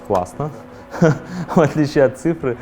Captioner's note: laughs